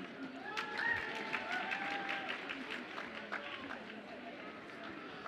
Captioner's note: audience applauds and cheers